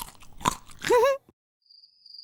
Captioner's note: Mary giggles